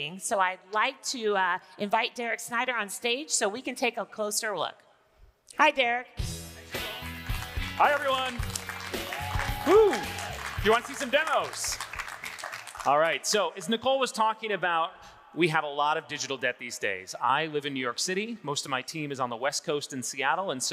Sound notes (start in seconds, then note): 6.2 upbeat music; 6.8 audience applauding